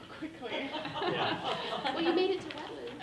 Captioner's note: people laughing